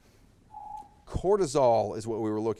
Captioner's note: timer beeps